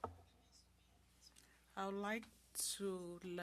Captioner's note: speaking French